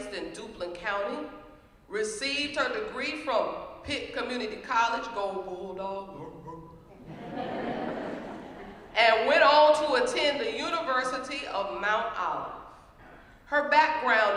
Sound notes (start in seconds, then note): 6.2 laugh